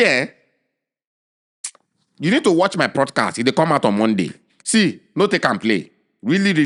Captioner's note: lip smack